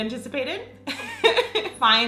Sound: laughing

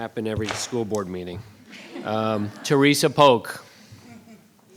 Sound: laughter

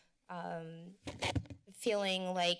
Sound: mic sounds

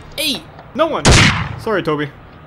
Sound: gunshot

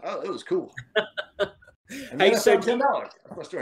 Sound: laughs

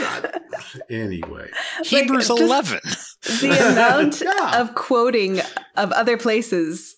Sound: laughing

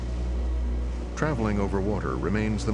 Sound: voiceover

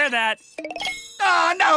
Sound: message share sound

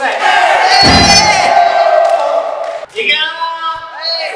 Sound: cheering loudly

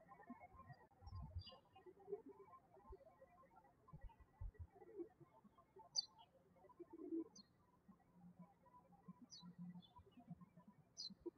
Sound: birds chirping

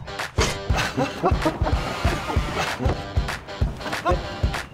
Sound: laughing

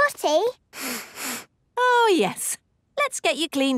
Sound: sniffs

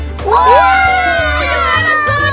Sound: cheerful yelling

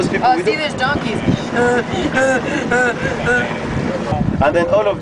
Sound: donkey noises

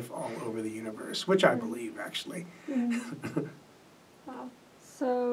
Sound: laughs

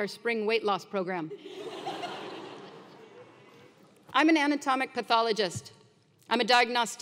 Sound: laugh

